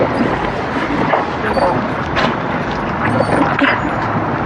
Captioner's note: dogog whihinining